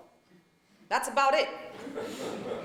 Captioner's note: laughter